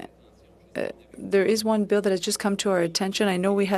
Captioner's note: speaking French